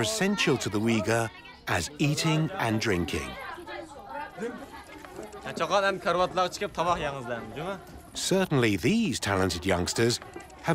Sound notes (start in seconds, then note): 6.8 speaking Uyghur